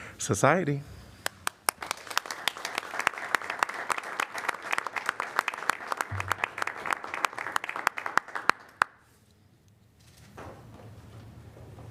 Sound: applause

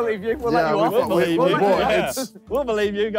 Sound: all laughing

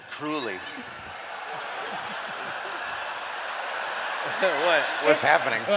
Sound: laughter

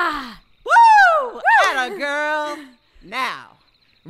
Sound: cheers

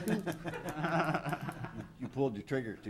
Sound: all laugh

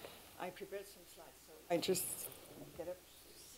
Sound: chatter

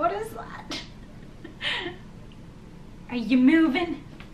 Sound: laughs

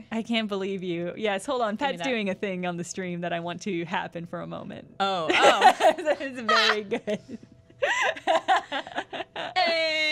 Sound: laughs

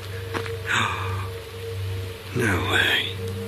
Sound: gasps

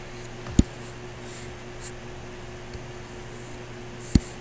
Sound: computer mouse tapping

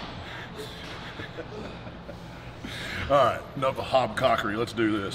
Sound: laugh

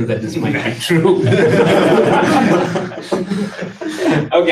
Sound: laughter

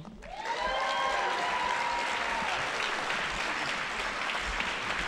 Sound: audience applauding

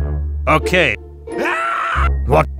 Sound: screaming

